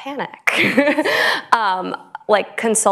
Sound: laughter

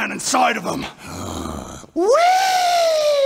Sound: hrrggggghh

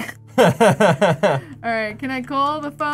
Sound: laughs

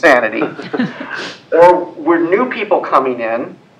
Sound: laugh

